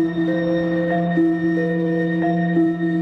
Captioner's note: none